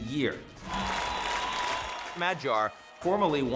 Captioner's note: crowd cheering